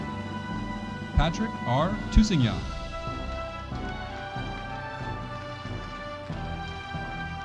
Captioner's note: audience applauding